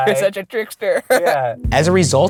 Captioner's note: voiceover